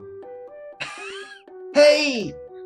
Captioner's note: gasps delightedly